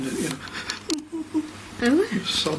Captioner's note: imitating sobbing sounds